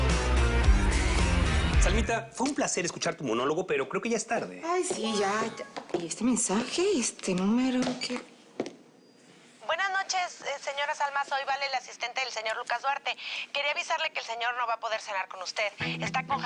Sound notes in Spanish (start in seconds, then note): 6.2 Alerta de mensaje